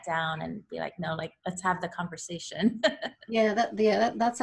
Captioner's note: laughs